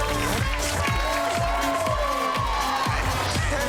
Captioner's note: crowd cheering and applauding